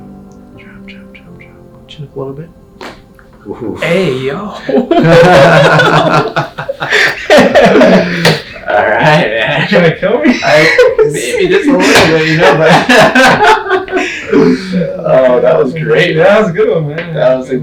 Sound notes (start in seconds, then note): 2.7 loud crack; 4.8 laughing; 12.6 laughing